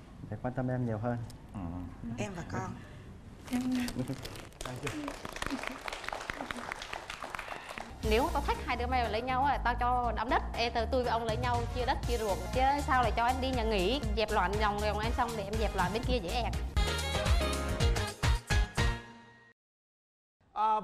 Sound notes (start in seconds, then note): 4.0 applause